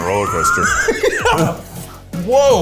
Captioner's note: laughs